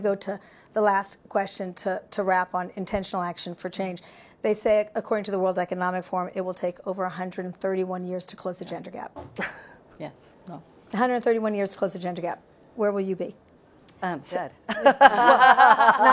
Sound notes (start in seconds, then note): 9.4 chuckling; 14.6 laughing